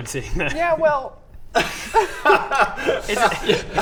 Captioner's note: proud laughter